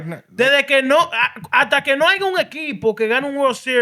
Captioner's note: speaking Spanish